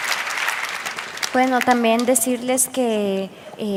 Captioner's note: applause